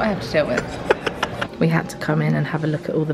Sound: laughing

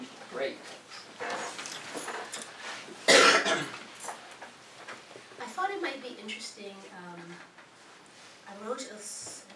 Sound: cough

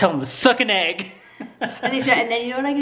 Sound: laughing

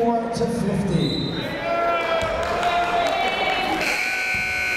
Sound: cheering

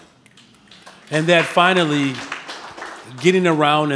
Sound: audience clapping

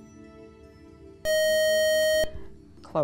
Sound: buzz

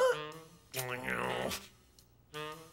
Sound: grumbles

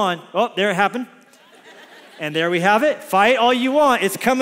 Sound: congregation laughs

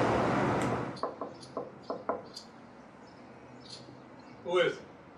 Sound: light knocking

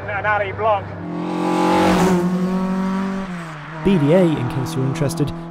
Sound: car engine revs

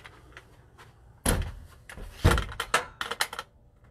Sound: the sound of a dryer being put down

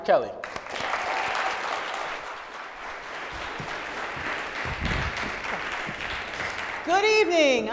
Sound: applause

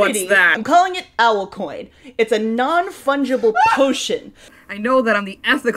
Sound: yelps

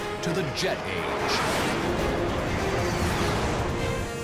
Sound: jet planes roaring

